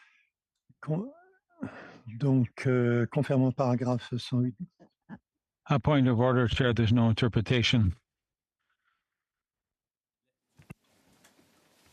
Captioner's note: speaking French